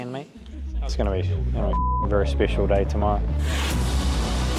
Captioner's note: beep